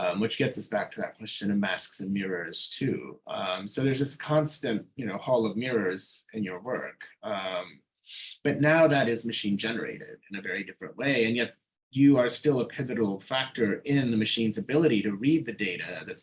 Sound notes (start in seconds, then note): none